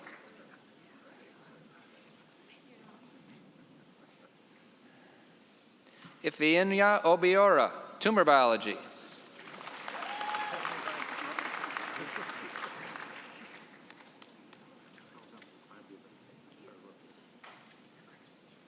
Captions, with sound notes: Ifyinya Obeora, tumor biology. (cheering and applause)